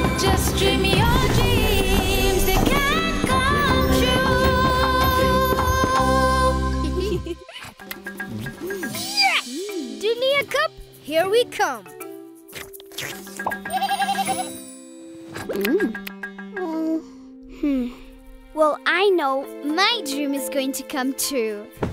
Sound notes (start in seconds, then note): 6.8 giggling; 13.7 bleating